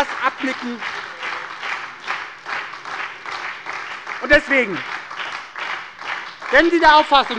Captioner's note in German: Beifall bei der SPD, der LINKEN und der FDP